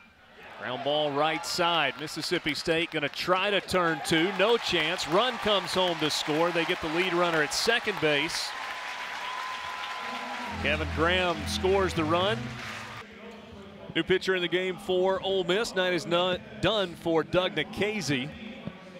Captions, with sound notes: Ground ball right side. Mississippi State gonna try to turn two. No chance, run comes home to score. They get the lead runner at second base. [cheering] Kevin Graham scores the run. New pitcher in the game for Ole Miss. Night is done for Doug Nikhazy.